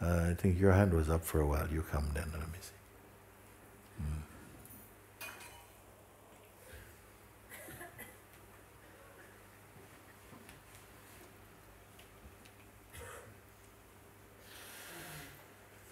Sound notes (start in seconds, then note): 5.1 silence